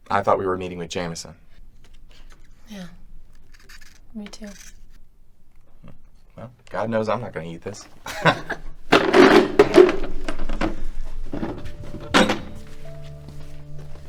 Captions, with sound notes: I thought we were meeting with Jamison. - Yeah, me too. - Hm, well, God knows I'm not gonna eat this. (laughs) (tense music)